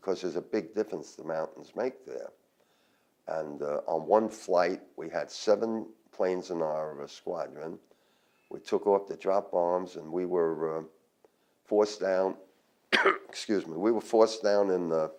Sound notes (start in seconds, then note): 12.9 coughs